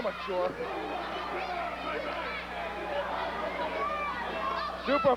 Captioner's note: crowd cheering